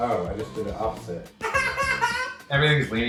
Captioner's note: laughing